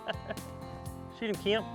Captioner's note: laughs